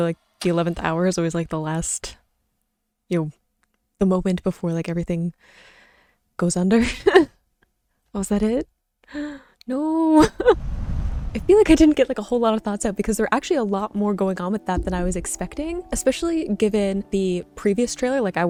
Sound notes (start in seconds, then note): 7.4 chuckles; 10.5 whooshing sound